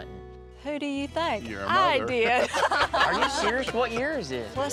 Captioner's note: laughing